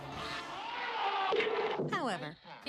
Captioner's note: screaming